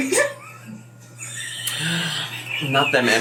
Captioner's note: laughing